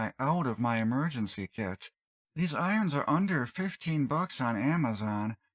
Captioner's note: none